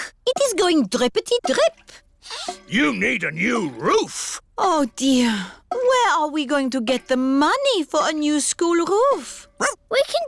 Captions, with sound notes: Look, it is going drippety drip. -(SNIFFS) You need a new roof. -Oh, dear. Where are we going to get the money for a new school roof?